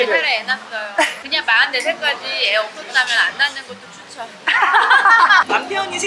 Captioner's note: laughing